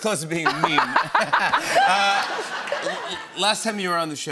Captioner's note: laughter